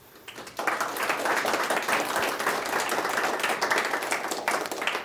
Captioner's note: audience clapping